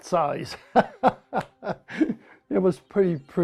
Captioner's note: laughs